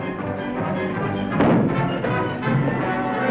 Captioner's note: blow